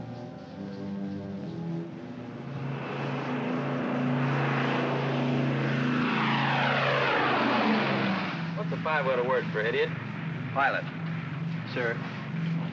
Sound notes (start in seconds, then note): 0.0 ominous music; 2.5 aircraft roars